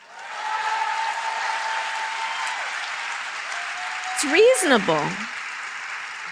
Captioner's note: applause